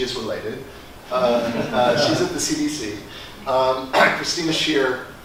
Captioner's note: laugh